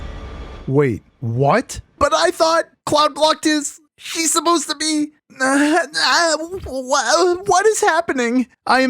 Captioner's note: sigh/groan